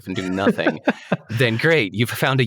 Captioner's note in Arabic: يضحك